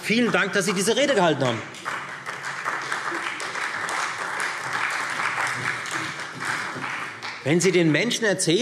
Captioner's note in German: Beifall Freie Demokraten, CDU und SPD